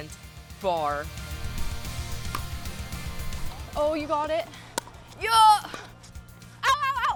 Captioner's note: pickeball sounds